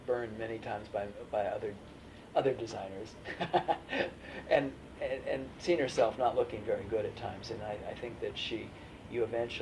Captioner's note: laughs